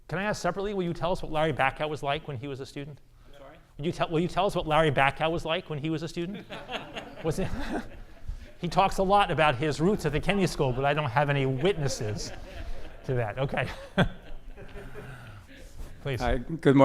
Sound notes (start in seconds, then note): 6.7 audience laughing